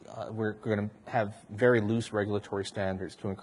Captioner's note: none